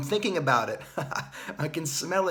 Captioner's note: laughs